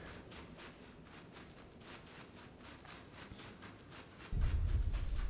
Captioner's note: footsteps